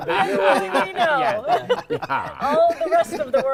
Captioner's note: laughter